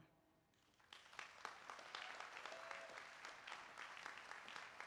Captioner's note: applause